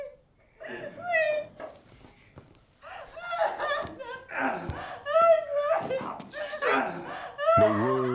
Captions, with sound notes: Oh, please, please... (crying)